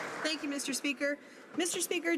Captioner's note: some Applause